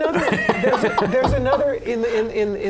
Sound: laughter

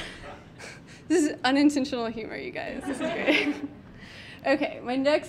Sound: audience laughing; laughs

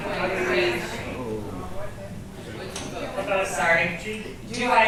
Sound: audience chattering

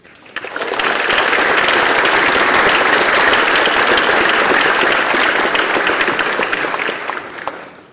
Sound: applause

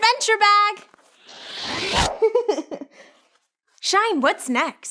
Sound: whooshing; laughing

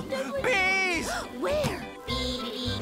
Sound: gasps

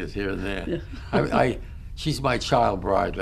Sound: laughs

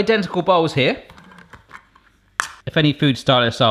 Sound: can opening

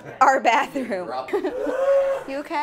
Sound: shrieks

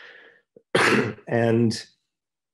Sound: coughing

